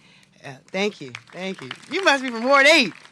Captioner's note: applause